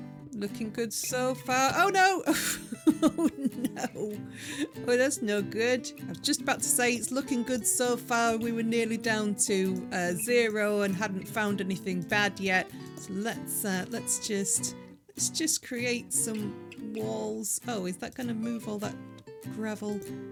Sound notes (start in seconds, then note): 2.2 laughing